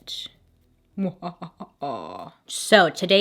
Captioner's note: evil laugh